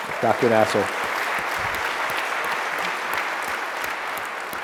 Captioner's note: applause